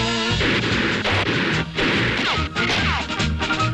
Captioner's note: Woody hammering; guns firing